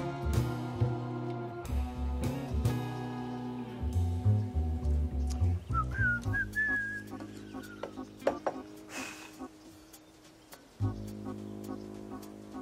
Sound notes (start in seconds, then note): 5.7 whistling